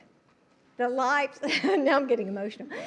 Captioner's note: laughs; laughter